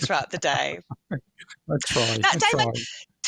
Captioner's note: laughs